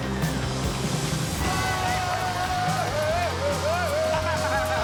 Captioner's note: thunder; screaming; laughing